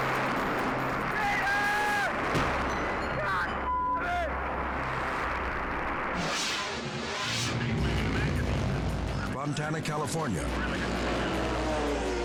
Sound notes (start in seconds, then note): 3.6 beep; 7.5 engines revving